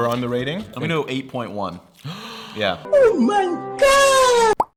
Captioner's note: gasps